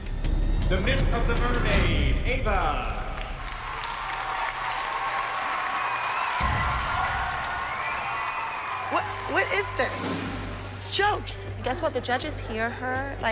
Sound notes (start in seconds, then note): 3.2 audience cheers and applauds